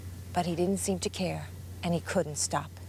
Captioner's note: voiceover